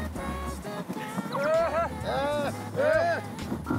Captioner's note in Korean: 낑낑